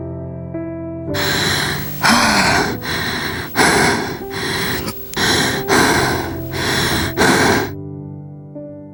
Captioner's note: breathing for courage